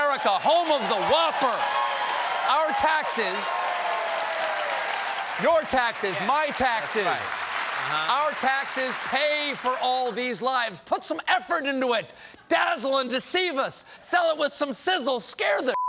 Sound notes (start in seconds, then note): 2.8 cheers and applause